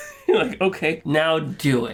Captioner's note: laughter